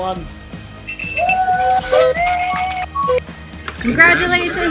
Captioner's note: people cheering